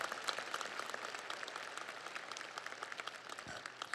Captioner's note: audience applauds